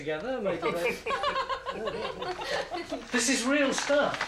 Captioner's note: laughs